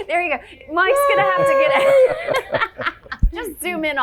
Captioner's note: laughing